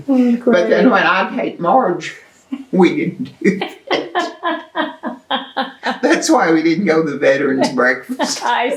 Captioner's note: laughter